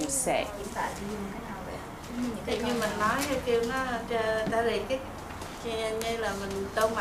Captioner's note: speaks foreign language